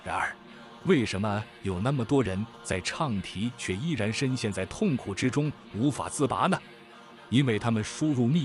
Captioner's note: chanting